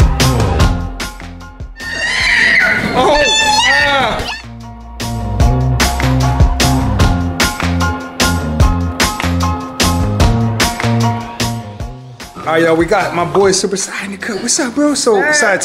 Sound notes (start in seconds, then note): 1.8 kid screaming; 6.1 upbeat music